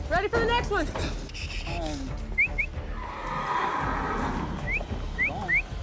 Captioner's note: whistling, horse neighing